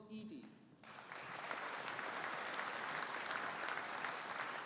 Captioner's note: audience applauding